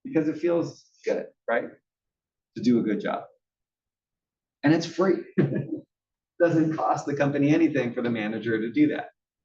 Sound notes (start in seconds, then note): 4.5 laugh